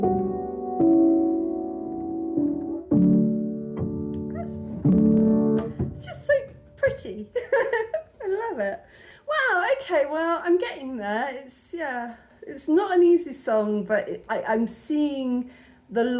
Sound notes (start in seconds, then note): 6.0 piano flourish; 7.3 laughing